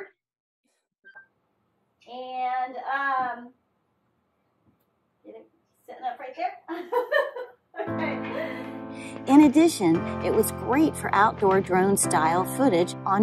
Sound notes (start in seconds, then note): 7.8 laughs